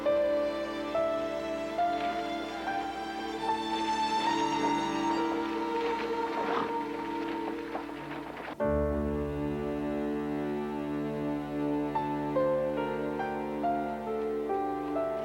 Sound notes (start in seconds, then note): 4.5 wagon rattling; 8.7 solemn music